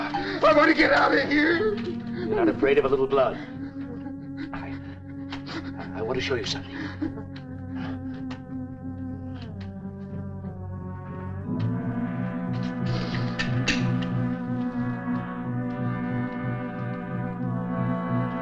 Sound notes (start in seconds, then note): 9.1 tense music; 13.2 lock clicks